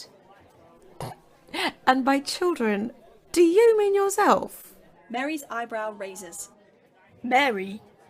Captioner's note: Mary laughs